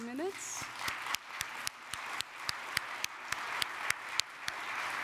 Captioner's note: audience applauds